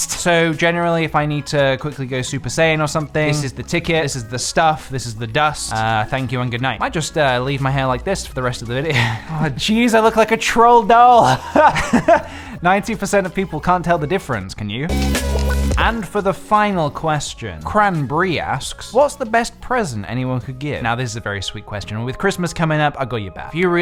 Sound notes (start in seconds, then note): 11.1 laughs